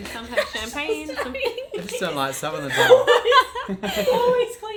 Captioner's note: all laughing